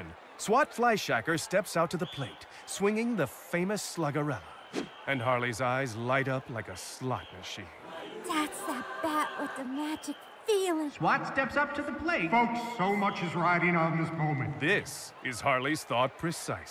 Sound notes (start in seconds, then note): 4.7 bat whiffs; 7.2 choral music